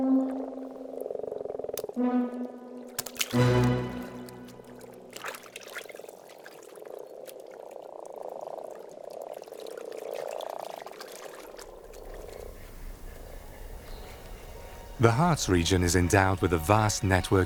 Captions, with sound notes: (dramatic slow music) (water sloshes) (frogs croak) The Harz region is endowed with a vast network